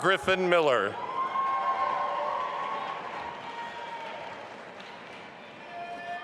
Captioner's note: audience applauding and cheering